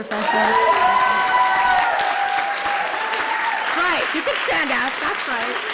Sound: applause

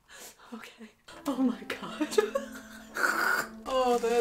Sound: my stupid laugh again

